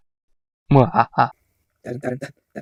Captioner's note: evil laugh